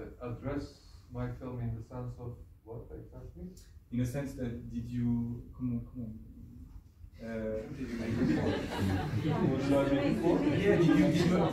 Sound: laughs

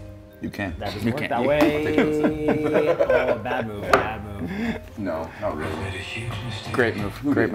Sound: laugh

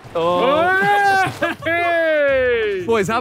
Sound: Sidemen laugh

